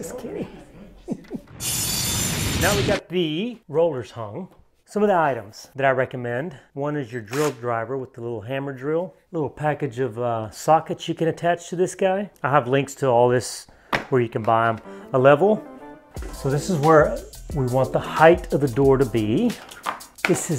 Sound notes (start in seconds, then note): 0.0 giggles; 1.8 drilling sound